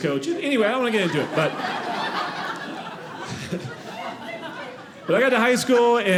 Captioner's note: audience laughing